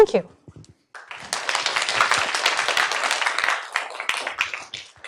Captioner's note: applause